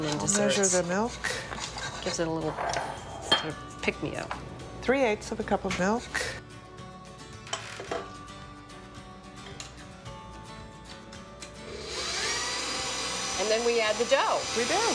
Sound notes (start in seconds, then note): 11.6 mixer whirring